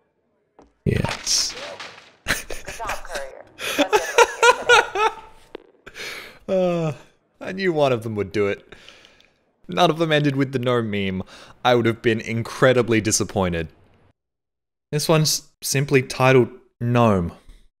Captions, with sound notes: Yes. *laughs* Ahh I knew one of them would do it. None of them ended with the gnome meme. I would have been incredibly disappointed. This one's simply titled gnome.